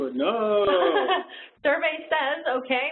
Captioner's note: laughs